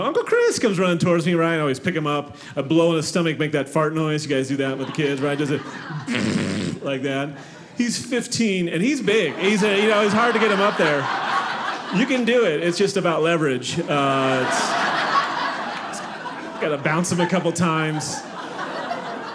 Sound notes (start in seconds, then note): 6.0 mimics flatulence; 10.9 audience laughing; 13.8 audience laughing